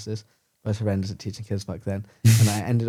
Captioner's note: laughs